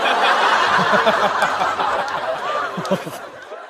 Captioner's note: haha